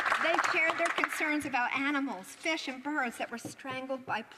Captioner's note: some Applause